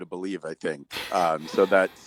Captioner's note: chuckles